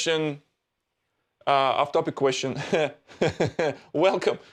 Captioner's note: laughs